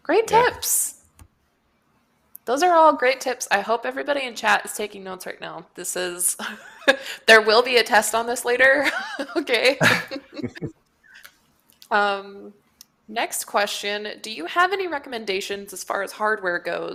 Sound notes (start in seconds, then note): 6.4 laughs; 9.6 laughter